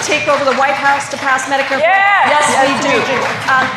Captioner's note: applause